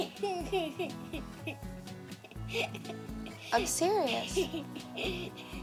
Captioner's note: children giggling